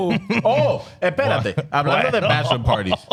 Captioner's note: speaking In Foreign Language